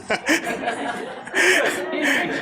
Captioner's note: laughter